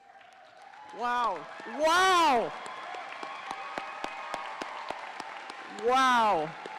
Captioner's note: audience cheering